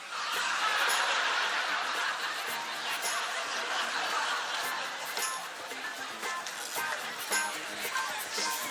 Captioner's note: laughter